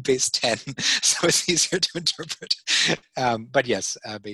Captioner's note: laughing